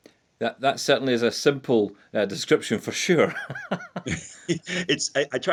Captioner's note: chuckles